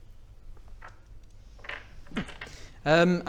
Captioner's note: reading noises